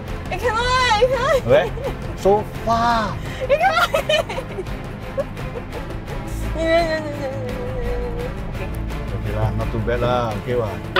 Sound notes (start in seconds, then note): 3.8 more laughs